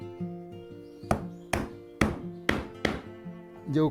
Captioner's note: hammering sound